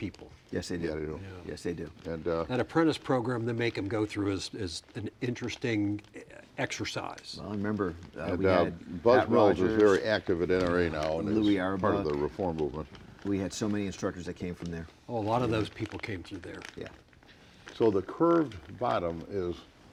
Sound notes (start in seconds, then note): none